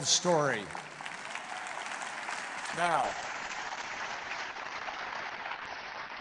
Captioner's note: applause